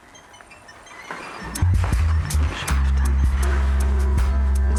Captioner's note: mutters